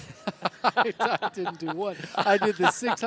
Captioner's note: laughter